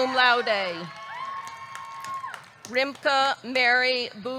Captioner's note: audience cheering; audience clapping